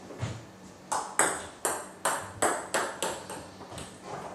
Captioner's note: ball ping pong hitting